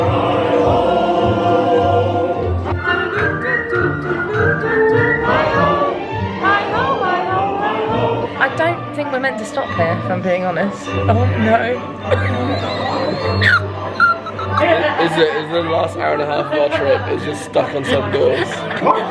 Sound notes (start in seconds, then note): 0.1 festive music; 12.0 laughing